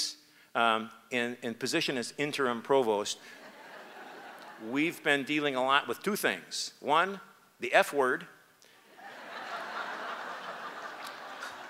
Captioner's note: applause